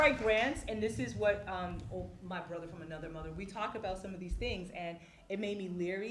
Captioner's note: applause